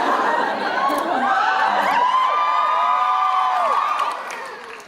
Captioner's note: cheering